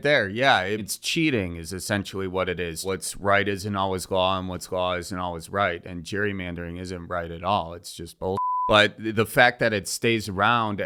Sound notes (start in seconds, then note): 8.4 beep